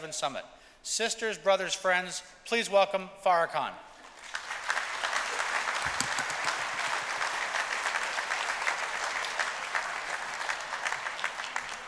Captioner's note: applause